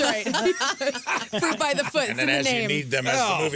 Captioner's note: laughing